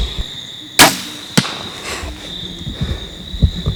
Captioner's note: sound of bowshot